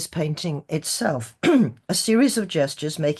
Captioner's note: clears throat